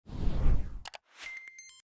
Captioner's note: air whooshing; bell rings